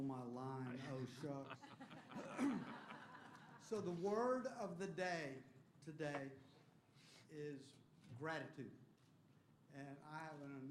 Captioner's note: laughter